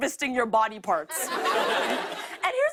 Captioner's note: laughter